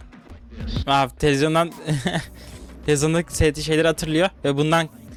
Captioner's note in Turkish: kahkaha